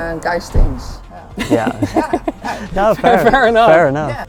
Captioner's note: everyone laughing